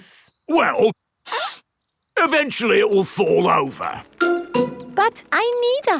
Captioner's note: sniffs